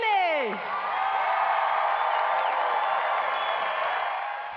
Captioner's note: crowd cheering